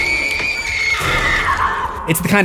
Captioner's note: screams